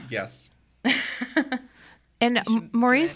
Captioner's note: podcaster laughing